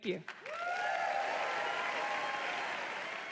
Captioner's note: applause